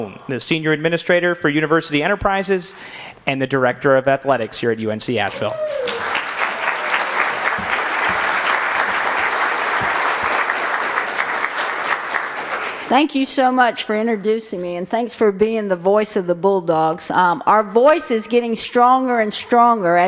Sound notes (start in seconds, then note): 5.2 applause